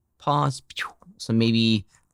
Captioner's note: lips swishing